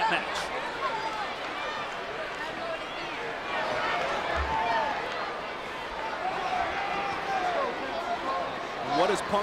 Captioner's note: applause